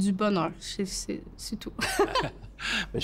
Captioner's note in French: rires